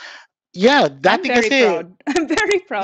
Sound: laughs

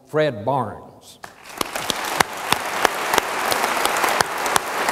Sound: audience applauds

